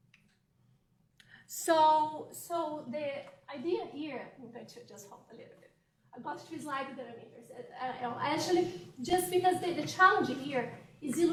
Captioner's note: off microphone